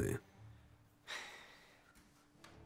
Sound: sighs

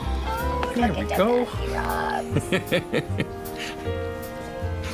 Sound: baby talk; laughter

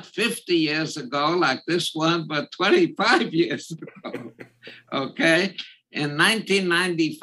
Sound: laugh

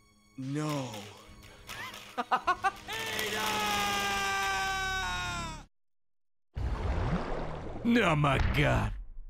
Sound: laughs

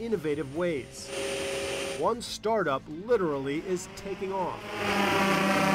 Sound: natsnd take off

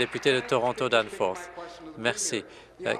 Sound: applause

